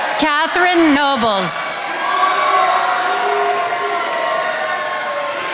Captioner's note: attendees applauding